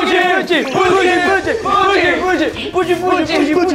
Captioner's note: cheers and praise!